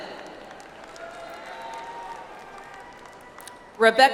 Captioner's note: audience applauds